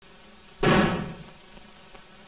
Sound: gunshot

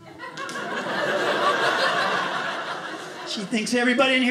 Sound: audience laughing

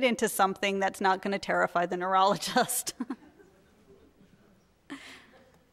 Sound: laughing

